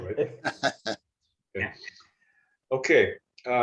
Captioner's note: laughter